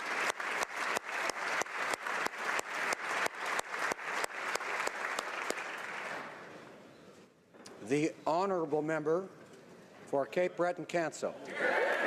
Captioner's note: applause